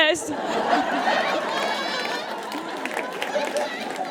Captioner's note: audience cackles and applauds